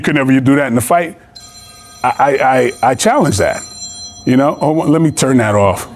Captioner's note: phone ringing